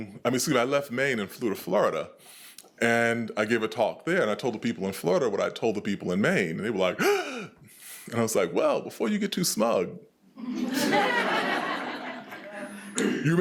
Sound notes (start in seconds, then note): 7.0 gasps; 10.4 attendees laughing